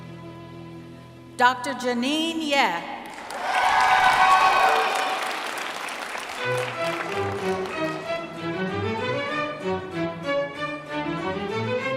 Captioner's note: cheering; applause